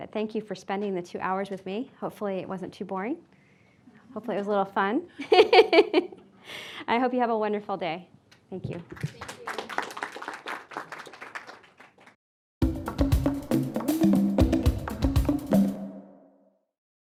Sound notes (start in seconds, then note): 5.9 laughing; 8.9 audience applauding; 12.6 upbeat music